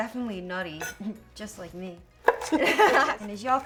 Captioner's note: both laughing